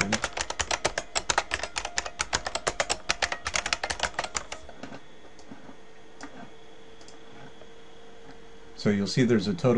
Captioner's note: typing